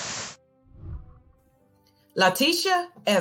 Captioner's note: whooshing